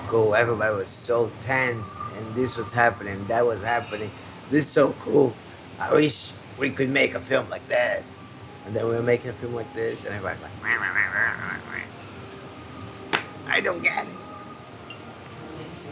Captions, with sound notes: Everybody was so tense and this was happening. That was happening. This is so cool. I wish we could make a film like this. And then we are making a film like this and everybody's like, (exclaiming). I don't get it.